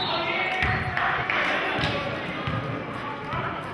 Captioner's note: whistling